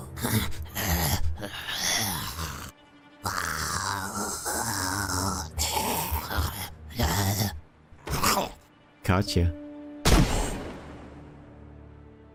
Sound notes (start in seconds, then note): 0.1 aggressive zombie noises; 3.2 very aggressive zombie noises